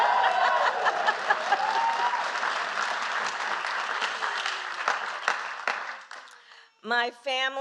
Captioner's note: applause